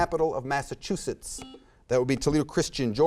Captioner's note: buzzer beeps